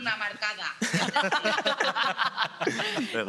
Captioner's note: all laugh